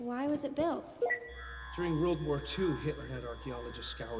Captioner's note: keypad beeping